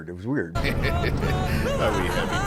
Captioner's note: amanojaku laughing